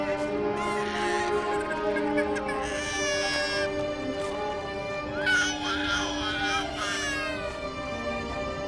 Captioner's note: baby crying